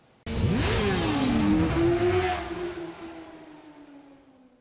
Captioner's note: bikes revving